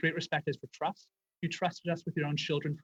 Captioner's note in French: voix de l'interprète